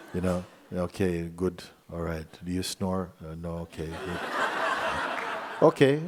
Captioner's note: laughter